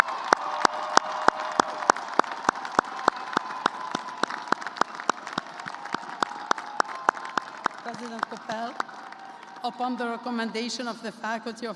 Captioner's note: cheers and applause